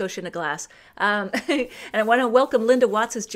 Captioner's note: laughs